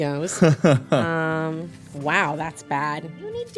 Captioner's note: laughs